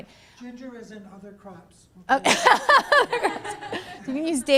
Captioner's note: laughter